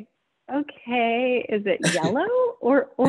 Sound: both laughing

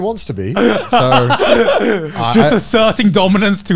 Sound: everyone laughs

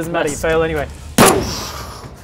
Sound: boosh!

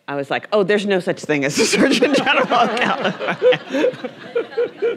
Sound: laughing; everyone laughing

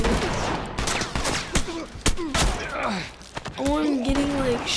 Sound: bullets whizzing; Joel grunts

